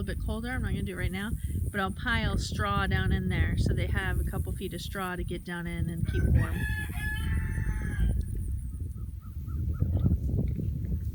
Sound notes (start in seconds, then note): 6.1 rooster crowing